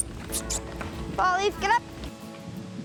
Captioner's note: chirrups